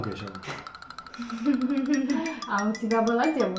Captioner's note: laughs the loudest